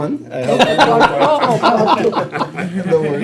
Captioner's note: laughter